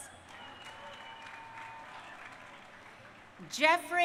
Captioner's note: crowd cheering